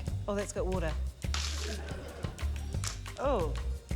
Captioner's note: splash!; clack!